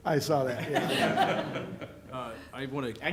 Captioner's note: laughter